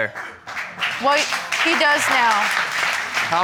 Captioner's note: applause